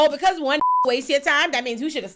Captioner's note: beep